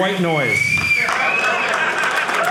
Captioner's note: audience cheering